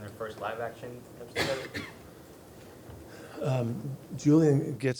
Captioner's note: person coughs